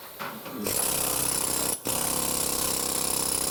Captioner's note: noise of the jackhammer